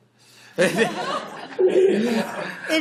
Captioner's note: laughter